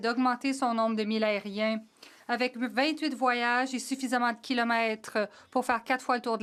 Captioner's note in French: voix de l'interprète